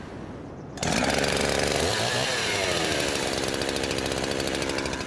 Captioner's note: chainsaw starting up